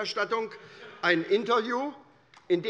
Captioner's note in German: Heiterkeit bei Abgeordneten der SPD